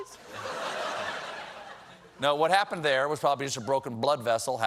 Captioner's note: laughter